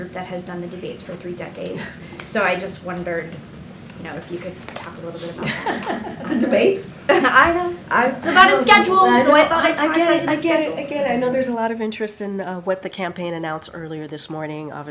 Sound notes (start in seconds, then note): 5.4 laughs